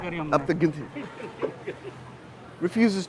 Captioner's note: speaking in foreign language